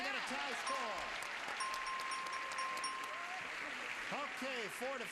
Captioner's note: bell dings